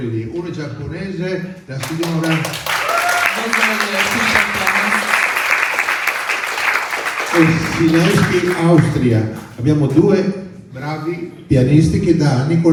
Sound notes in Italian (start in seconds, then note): 1.8 Applauso